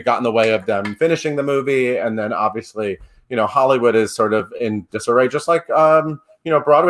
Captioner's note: none